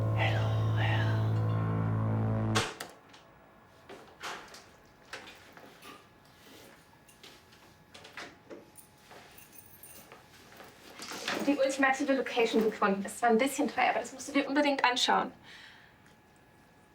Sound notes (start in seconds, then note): 5.0 door sound